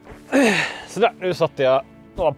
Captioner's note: hnnngh